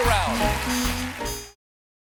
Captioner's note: band playing; cheers and applause